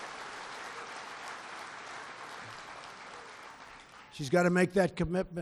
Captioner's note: applause